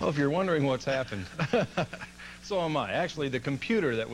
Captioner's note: laughs nervously